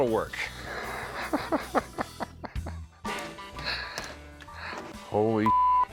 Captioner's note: laughs